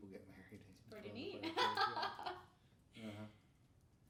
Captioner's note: laughing